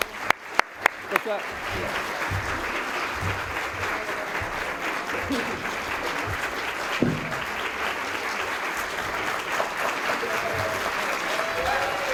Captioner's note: applause